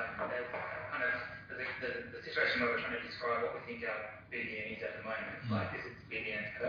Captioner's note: audio distorts